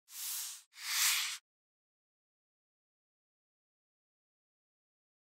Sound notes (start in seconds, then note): 0.7 whooshing